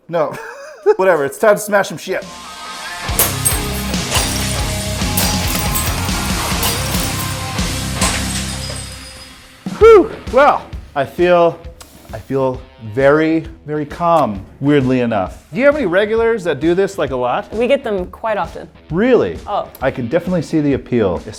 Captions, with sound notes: No, whatever. It's tough to smash some shit. (glass shattering) (pulsing rock music) Woo, well, I feel very, very calm, weirdly enough. Do you have any regulars that do this, like, a lot? - We get them quite often. - Really? - Oh. - I can definitely see the appeal,